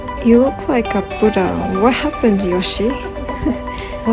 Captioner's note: laugh